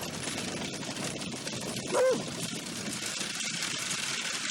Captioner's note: dog barks